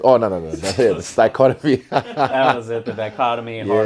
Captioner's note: laughs